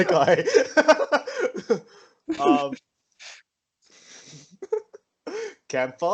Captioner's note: laughs; laughs in filthy casual